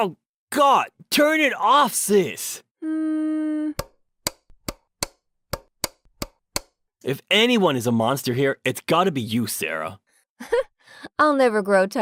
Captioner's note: laughs